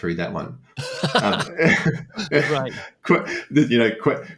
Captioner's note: laughter